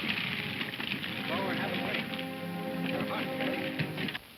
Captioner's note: men chattering